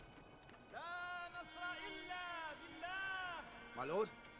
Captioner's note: shouting in arabic